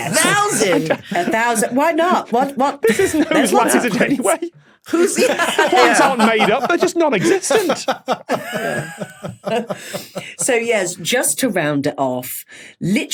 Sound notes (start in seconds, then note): 4.9 laughs; 9.7 wheezes